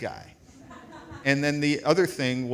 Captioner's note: audience laughs